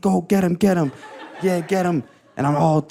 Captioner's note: audience laughing